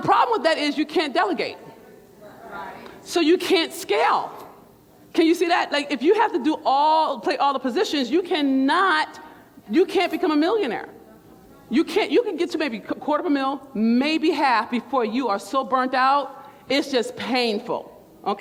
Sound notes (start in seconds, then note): 1.6 crowd